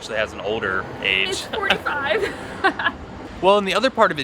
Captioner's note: laughs